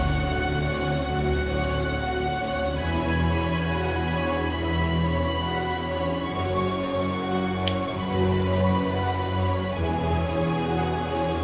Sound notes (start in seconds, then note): 7.6 open lock sound